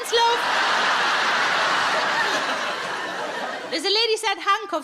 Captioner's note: audience laughs